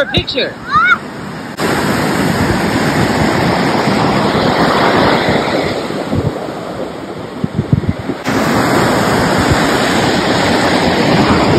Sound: waves crashing on beach

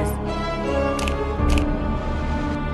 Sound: cards flipping

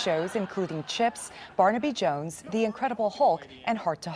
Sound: laughter

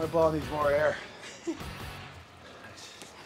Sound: laugh

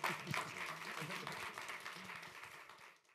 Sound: applause

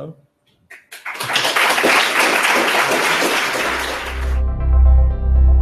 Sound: applause

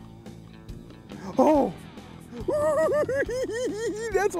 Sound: giggling

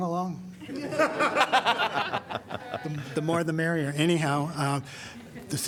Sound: laughter

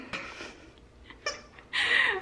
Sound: laughing

